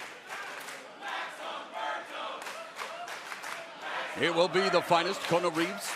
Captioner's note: fans chanting